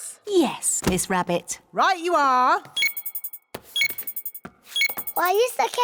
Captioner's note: beeping